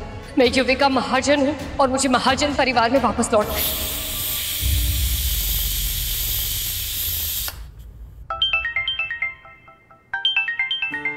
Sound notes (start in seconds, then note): 3.5 cooker whistle blowing; 8.3 phone ringing